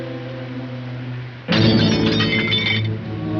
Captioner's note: glass breaks